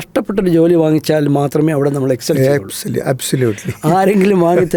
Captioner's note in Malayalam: പൊട്ടിച്ചിരി